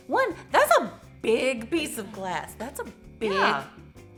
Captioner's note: none